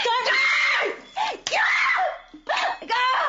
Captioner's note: shrieking